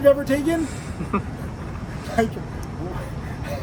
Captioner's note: both laugh